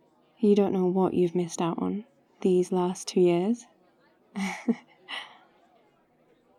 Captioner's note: laughs